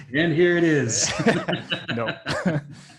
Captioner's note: laughing